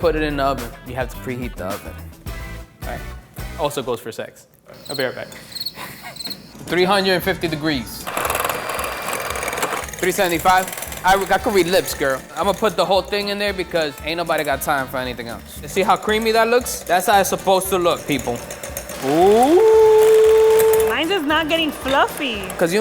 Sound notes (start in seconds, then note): 5.4 crickets chirping